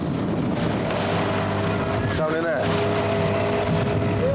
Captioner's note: motor whines